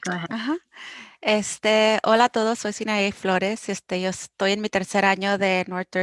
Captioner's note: speaking foreign language